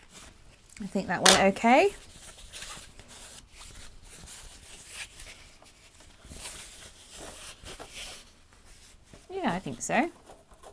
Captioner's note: fabric rustling